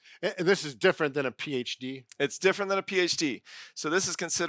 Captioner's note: none